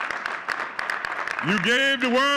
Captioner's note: audience cheering and clapping